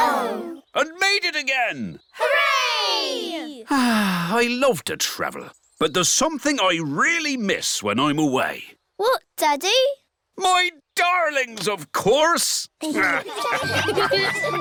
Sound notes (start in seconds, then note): 3.6 sighs; 12.9 all laughing